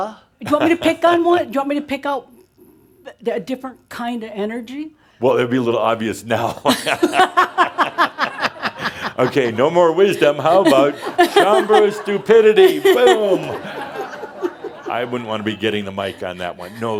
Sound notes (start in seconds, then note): 8.1 they laugh; 13.0 laughter